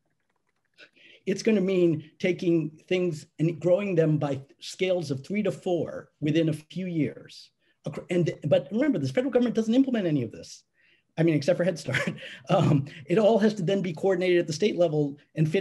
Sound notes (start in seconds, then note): 11.8 chuckling